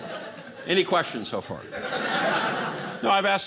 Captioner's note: audience laughing